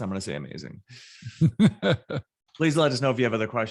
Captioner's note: laughing